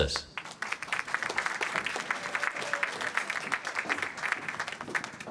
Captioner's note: applause